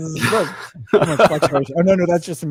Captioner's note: laughing